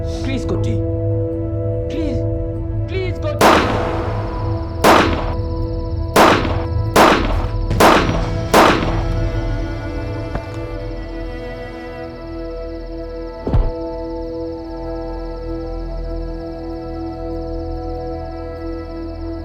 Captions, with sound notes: Please Goty. Please! Please Got... [GUN SHOT] [GUN SHOT] [GUN SHOTS]